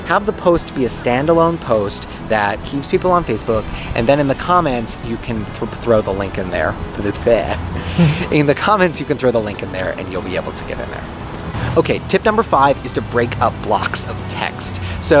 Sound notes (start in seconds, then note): 7.5 man laughing